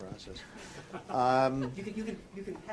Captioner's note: laughter